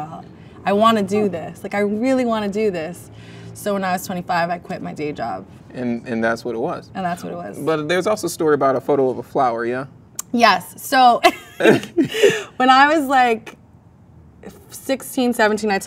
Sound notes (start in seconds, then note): 11.3 laughs; 11.3 man laughs